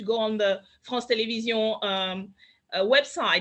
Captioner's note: speaks French